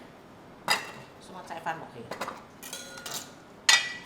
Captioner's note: Cantonese